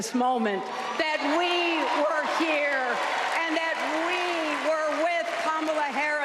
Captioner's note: applause